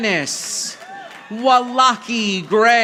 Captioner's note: audience applauding